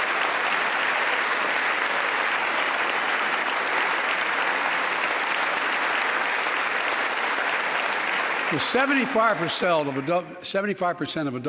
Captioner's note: applause